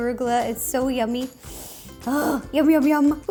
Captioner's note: sniffs